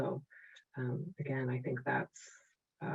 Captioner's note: none